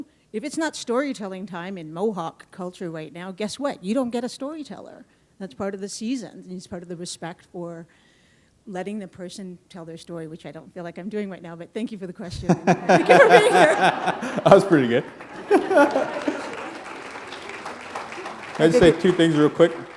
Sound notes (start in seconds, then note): 12.4 laughter; 14.8 applause